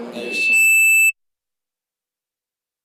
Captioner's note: microphone squealing